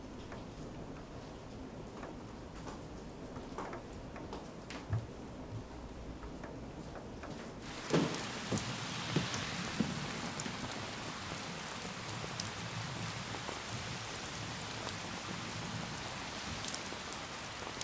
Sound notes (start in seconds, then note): 7.8 rain falling